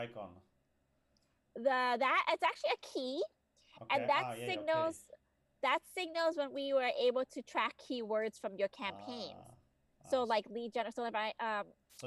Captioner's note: interrupts